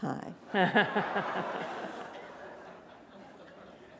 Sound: laughter

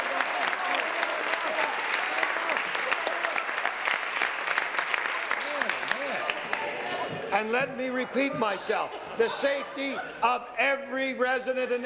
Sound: some Applause

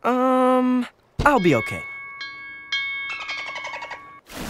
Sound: dings like a buoy; dolphins chatter

